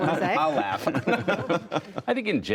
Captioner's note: laughter